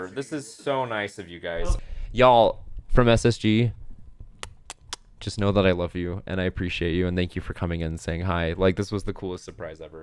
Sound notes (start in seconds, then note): 4.4 kissing noses